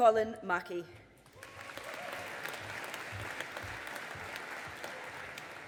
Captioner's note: audience applauding